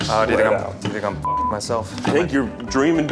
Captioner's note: beep